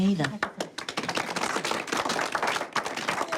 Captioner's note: applause